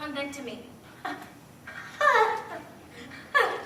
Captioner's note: laughs